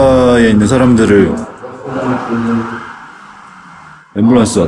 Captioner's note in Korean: 싸이렌 소리